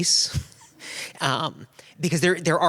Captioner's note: laughter